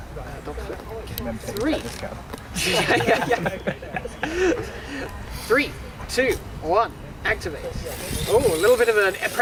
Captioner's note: laughter